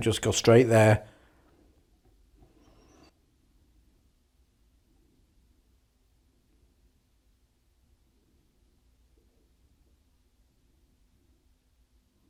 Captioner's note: silence